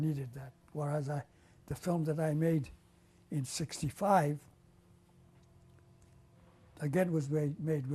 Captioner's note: pauses for 3 seconds